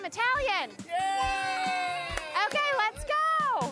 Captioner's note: family cheering